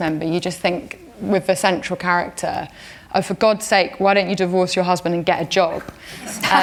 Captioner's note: laughter